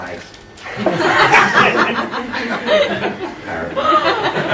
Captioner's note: laughing